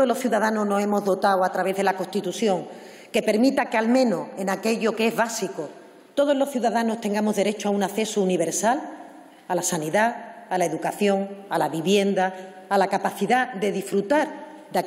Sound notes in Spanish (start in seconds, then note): none